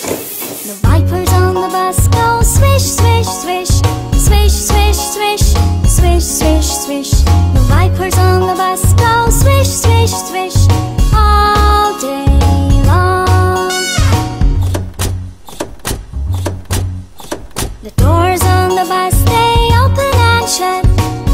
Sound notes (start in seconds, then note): 0.0 wipers swishing; 14.0 doors opening and closing